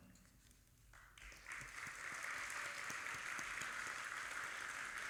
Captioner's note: audience applauding